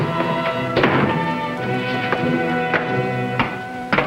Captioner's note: shoes clacking; door thuds; shoes clacking